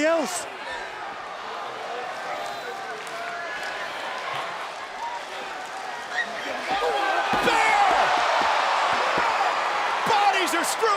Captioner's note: applause